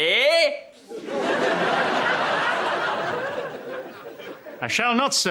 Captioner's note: laughs